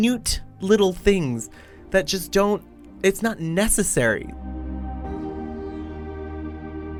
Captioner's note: voiceover